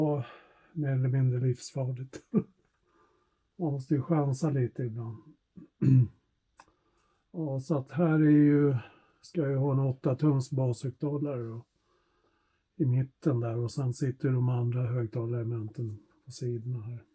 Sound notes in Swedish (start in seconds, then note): 5.6 harklar sig